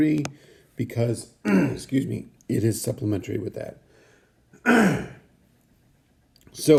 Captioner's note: clearing throat; clearing throat again